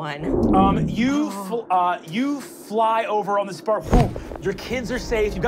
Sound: wooshing

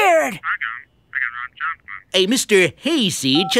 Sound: murmuring

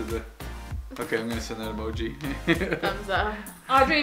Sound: laughs

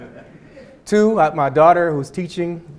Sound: audience chuckling

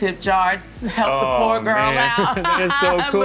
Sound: laughs

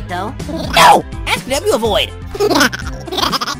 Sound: buddy cut boy giggling

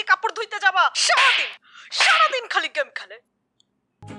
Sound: smacking sounds

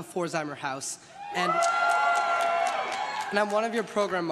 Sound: crowd cheers and claps

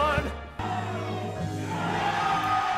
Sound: cheering

